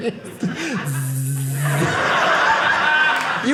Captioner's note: buzzing noises